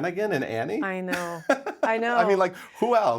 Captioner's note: laughs